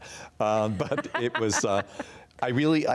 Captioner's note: laughs